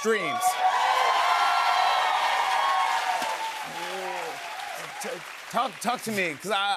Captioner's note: cheers and applause